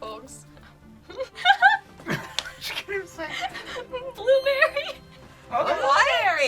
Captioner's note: laughs; word twinkles